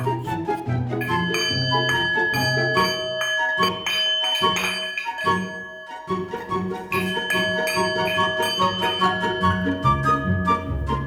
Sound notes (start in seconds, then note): 0.2 singing bowl rings; 6.9 and rings some more